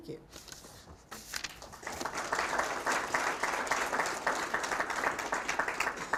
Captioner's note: applause